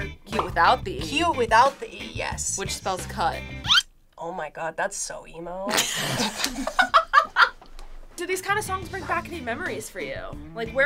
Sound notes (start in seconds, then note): 5.8 everyone laughs